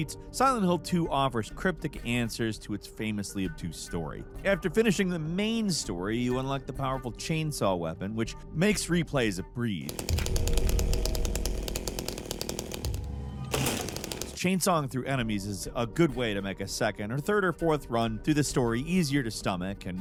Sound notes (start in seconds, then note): 9.8 chainsaw buzzing; 10.0 eerie dramatic music